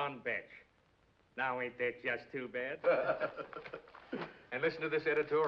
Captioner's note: man laughs